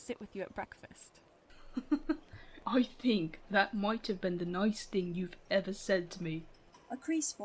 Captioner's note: James laughs